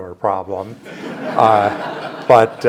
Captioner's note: audience laughs